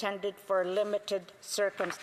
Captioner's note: speaking Indigenous Language